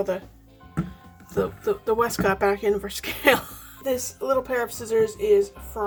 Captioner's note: laughs